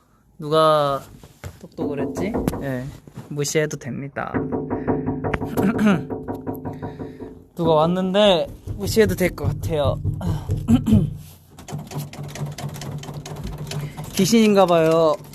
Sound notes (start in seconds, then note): 10.7 clears throat